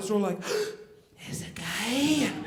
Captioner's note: sighs